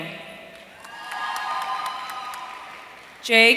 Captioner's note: audience cheering